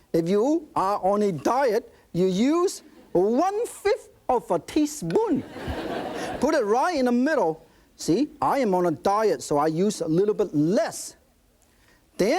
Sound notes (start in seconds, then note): 5.4 audience laughing